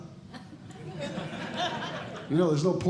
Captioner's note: audience Laughing